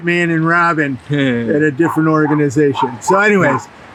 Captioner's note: laughs